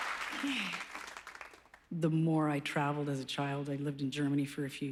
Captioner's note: sighs